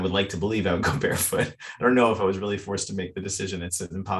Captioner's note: chuckles